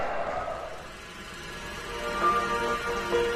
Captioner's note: projector clicking